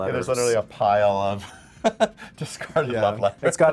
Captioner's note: chuckles